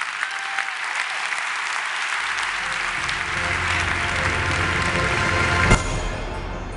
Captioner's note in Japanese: 拍手